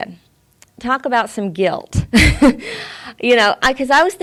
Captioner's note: she laughs